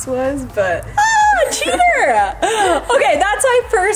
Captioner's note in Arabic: كلاهما يضحك